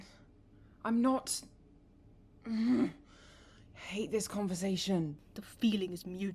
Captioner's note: frustrated noise